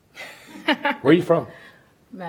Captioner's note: laughter